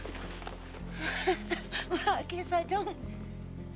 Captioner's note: chuckles nervously